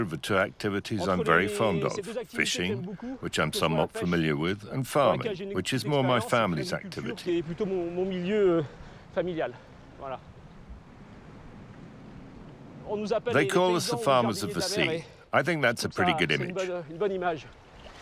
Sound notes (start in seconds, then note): 7.9 speaking in foreign language